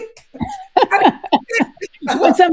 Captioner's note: all laughing